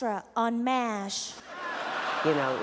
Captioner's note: laughter